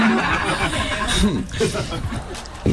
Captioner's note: laughter